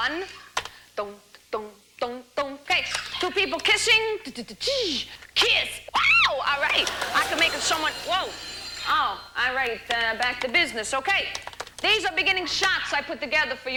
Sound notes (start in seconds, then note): 2.7 humming theme; 8.2 ring